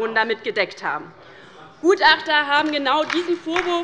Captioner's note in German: Beifall bei der LINKEN